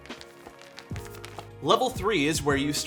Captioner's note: material clicking